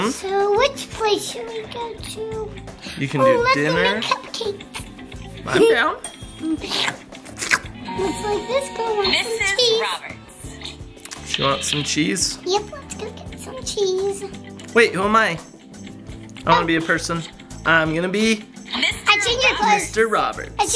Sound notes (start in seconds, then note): 6.6 both slurp